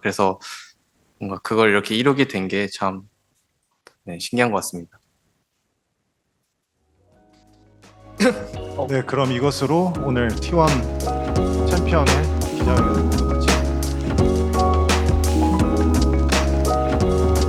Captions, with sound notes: So it's interesting that we actually made that come true. [Laughs]